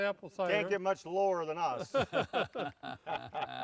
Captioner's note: group chuckling